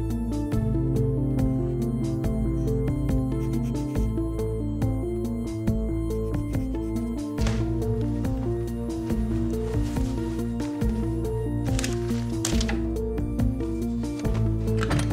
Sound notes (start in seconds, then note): 2.1 pencil scratching